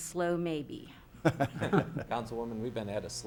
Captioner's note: laughs